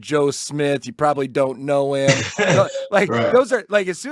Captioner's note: laughs